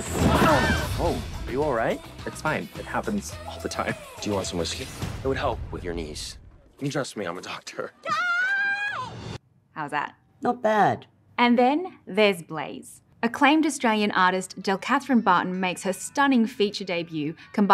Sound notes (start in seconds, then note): 8.0 screams in gay